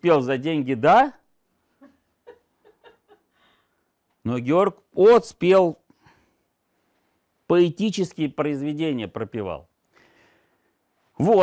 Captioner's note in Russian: смех